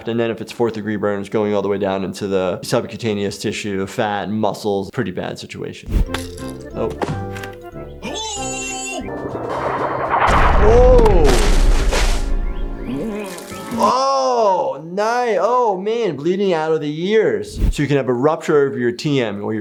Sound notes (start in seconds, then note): 9.0 barrel explodes